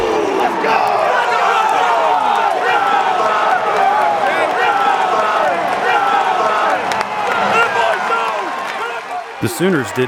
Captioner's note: cheering